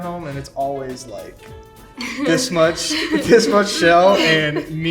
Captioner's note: laughs